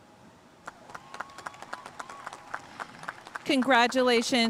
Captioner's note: audience cheering and applauding